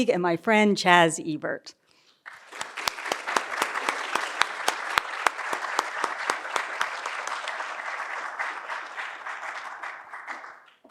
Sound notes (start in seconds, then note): 2.2 all applauding